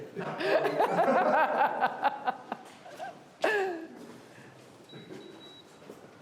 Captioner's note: laughing